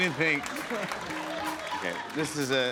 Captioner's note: laughter